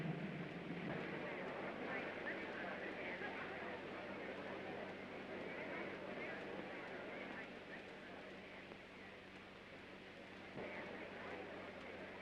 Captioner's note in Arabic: همهمة خافتة